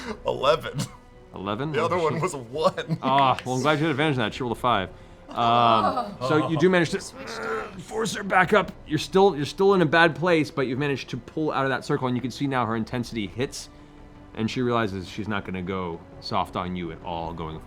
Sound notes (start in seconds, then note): 0.0 laughing; 5.2 groans